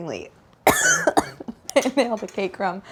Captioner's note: coughs